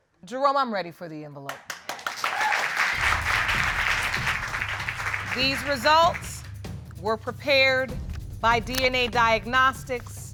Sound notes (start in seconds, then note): 1.6 audience applauding